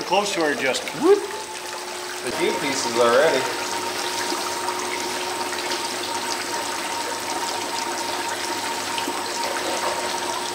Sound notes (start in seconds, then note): 4.5 water running